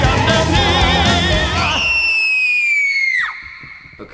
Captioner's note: very high pitched scream